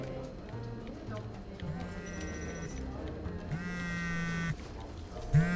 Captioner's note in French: Son téléphone perso sonne